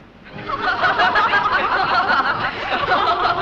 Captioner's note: laughter